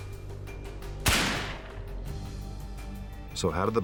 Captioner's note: gun bangs